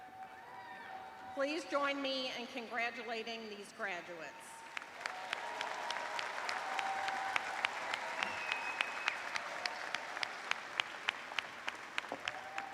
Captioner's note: cheers and applause